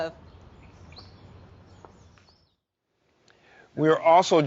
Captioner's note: birds chirping